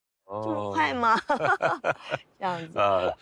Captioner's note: laughs